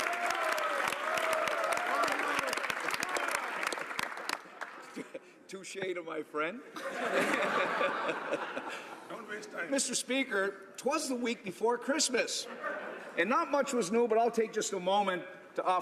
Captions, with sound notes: BUT THE HONOURABLE MEMBER FOR CAPE BRETON-CANSO. [ Applause ] >> TOUCHE TO MY FRIEND.